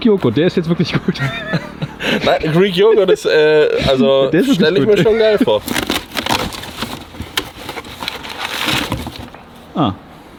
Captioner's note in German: gelächter